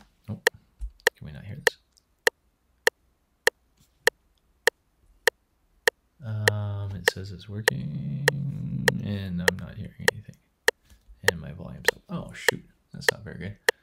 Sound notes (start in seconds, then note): 2.3 metronome ticking